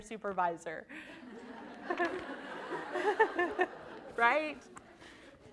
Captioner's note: all laughing